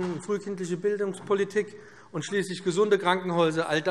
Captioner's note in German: none